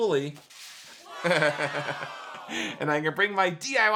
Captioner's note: laughs